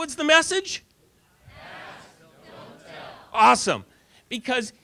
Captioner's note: audience response